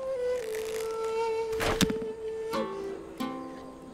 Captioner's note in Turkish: Ok fırlatma sesi